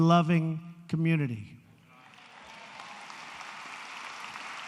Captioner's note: applause